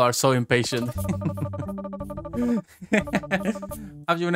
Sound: chuckles

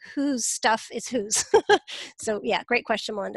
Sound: laughs

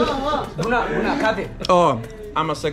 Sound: speaking in foreign language; says thank you in foreign language

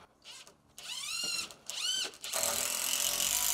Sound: drill whirring

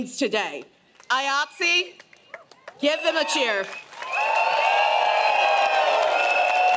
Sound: crowd cheers

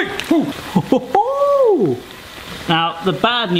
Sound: exclaiming in pain; exclaiming in delight

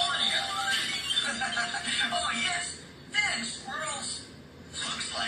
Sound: laughs

